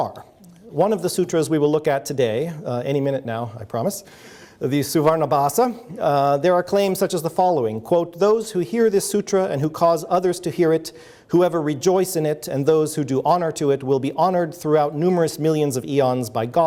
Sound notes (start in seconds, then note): none